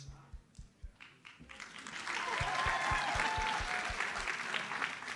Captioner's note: audience applauds